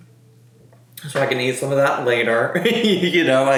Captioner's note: laughs